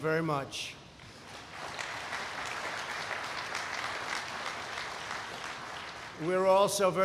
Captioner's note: applause